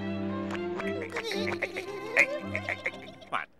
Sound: laughing

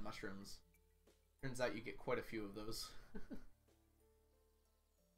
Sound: chuckles

